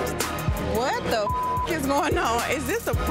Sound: beep

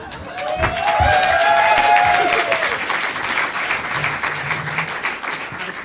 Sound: audience applauding

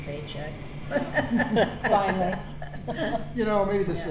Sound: all laugh

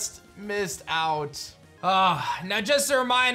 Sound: sighs

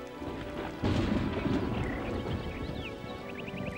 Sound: thunder clapping

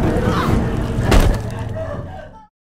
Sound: thud

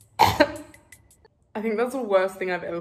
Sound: coughs

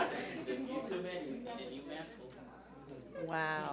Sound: audience laughs; speaks faintly

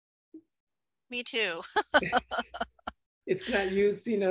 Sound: giggles

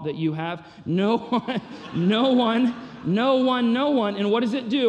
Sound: chuckles

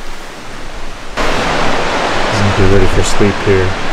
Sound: water rushing

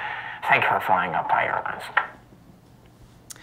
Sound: mouth click

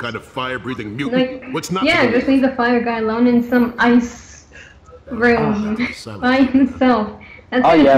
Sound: laughs

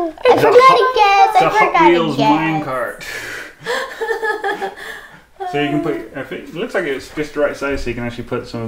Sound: laughing

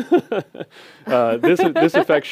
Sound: laughter

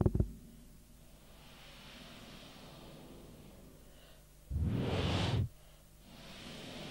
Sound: shri mataji blows into the microphone

